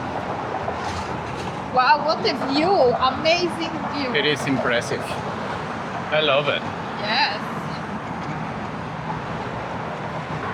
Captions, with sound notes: Wow, what a view, amazing view. It is impressive. I love it. Yes. [wind]